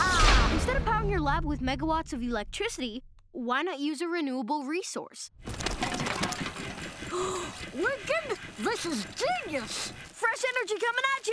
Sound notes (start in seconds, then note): 6.0 gasping